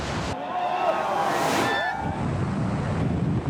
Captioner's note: applauding crowd